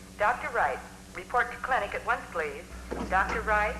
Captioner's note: woman Over PA